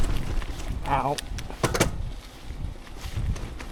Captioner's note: bumps